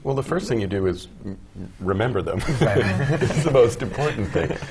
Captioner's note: laugh